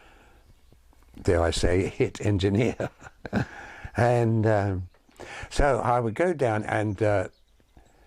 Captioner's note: chuckles